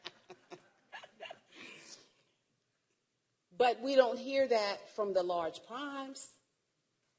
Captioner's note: laughter